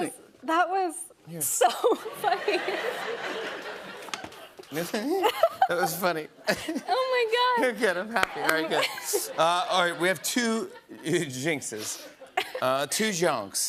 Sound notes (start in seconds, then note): 1.7 laughter